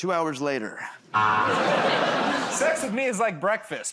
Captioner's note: buzzer